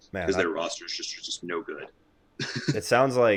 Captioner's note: laughs